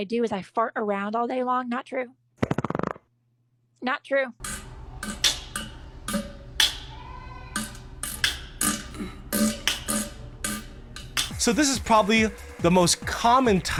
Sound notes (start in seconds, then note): 2.4 loud fart; 4.4 someone making a beat with farts